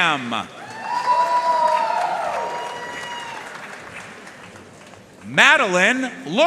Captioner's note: audience cheering and applauding